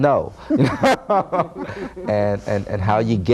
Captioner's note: laughing